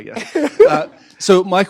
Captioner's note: laughter